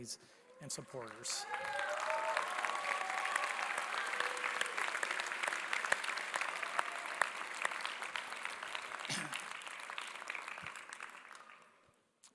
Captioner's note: applause